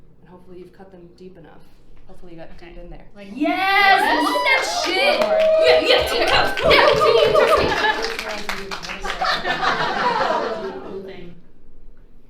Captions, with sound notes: And hopefully you've cut them deep enough. - Hopefully you got it in there. - Yeah! (audience cheering) - Yeah, Team Toast! Team Toasty! - Just realized we did all the set dec in the wrong direction. - We're gonna do a cool thing.